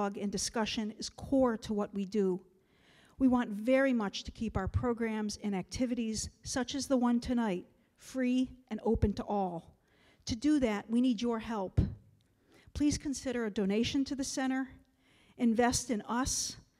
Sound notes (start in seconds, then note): none